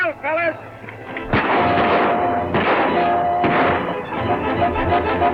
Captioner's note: guns fire repeatedly